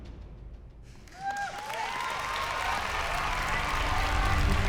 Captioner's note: loud cheering